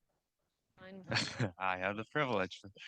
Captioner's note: participant laughs